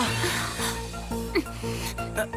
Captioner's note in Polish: wzdech